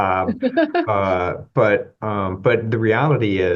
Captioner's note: laughter